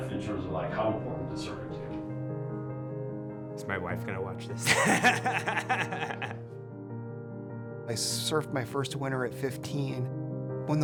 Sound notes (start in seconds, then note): 4.6 laughs